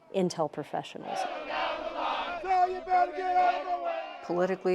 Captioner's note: soldiers chanting